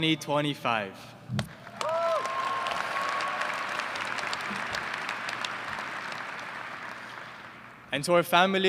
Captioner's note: applause